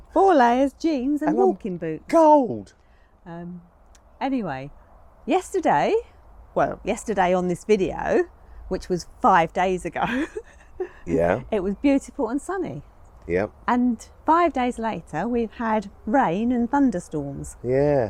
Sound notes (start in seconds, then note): 10.0 laughs